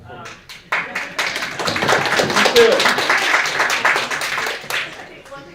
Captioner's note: audience applauding